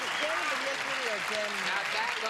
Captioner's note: clapping and whistling